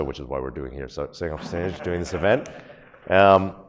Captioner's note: audience laughs